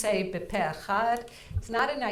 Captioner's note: speaking in foreign language